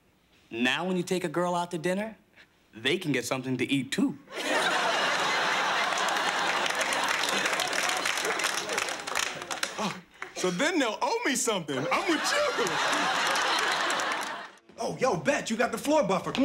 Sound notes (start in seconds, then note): 4.3 audience laughing; 11.7 audience laughing